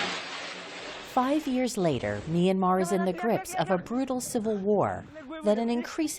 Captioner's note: voice-over